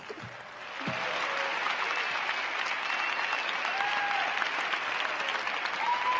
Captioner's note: crowd applauding